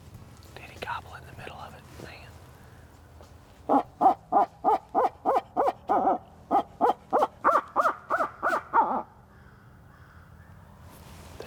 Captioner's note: whispering